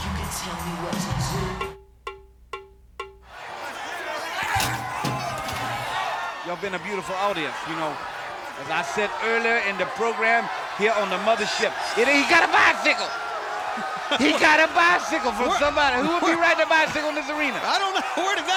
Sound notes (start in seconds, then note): 0.1 drum music; 3.5 wrestlers grunting